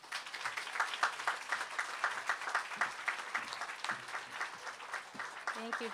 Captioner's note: applause